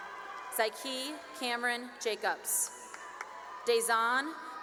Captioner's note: cheering; cheering and applause